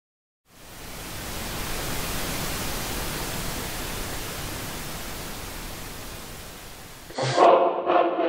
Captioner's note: the hissing noise of an untuned TV